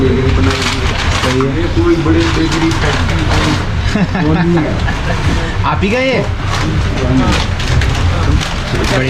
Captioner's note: laughs